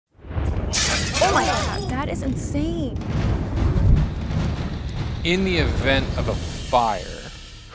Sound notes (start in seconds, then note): 0.7 glass breaks